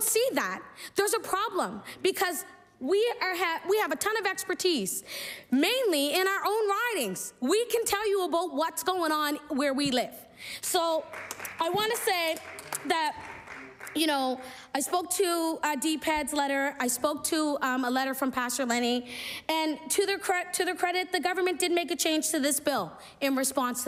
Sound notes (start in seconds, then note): 14.2 applause